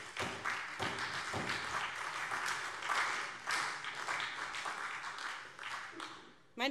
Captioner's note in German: Beifall SPD und vereinzelt Freie Demokraten